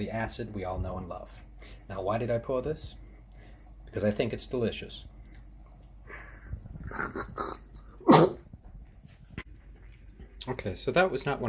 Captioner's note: sip cough death